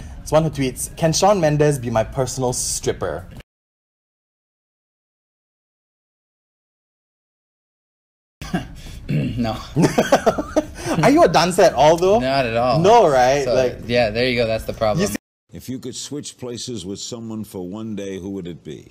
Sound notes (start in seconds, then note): 8.4 clears throat; 9.2 laughs